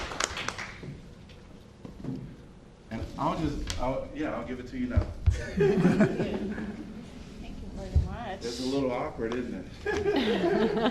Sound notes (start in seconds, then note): 0.0 applause; 5.4 laughter; 9.8 laughter